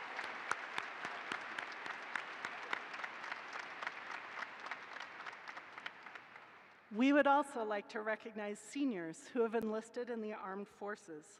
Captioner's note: applause